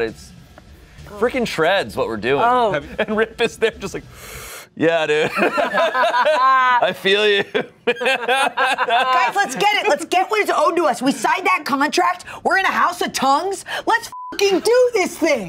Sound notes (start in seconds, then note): 5.2 everyone laughs; 14.1 beep